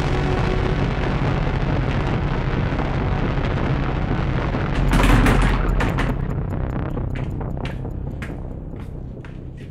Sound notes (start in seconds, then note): 5.2 plastic clattering